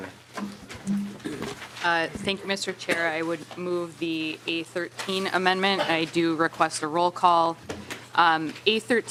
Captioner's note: gavel